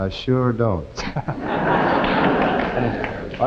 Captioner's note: audience laughing